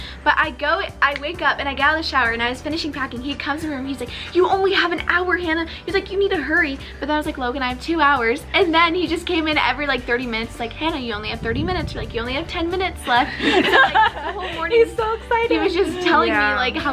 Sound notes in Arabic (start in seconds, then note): 13.1 يضحك